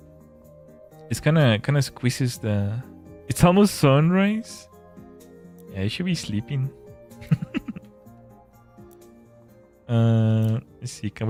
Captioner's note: laughter